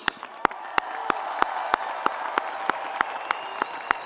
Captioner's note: audience applauds